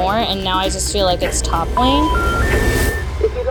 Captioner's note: dial tone